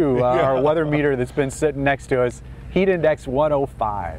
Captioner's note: laughter